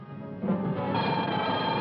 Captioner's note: alarm